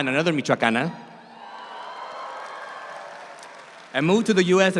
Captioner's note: audience cheers